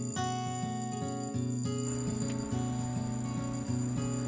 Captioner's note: warning bell rings